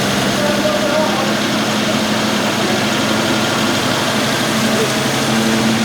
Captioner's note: engine revving muffles speaker